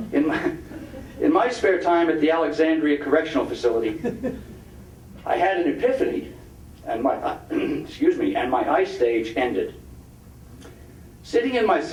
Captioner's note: clearing throat